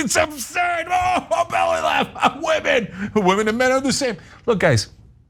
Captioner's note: laugh